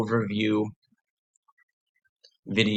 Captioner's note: pause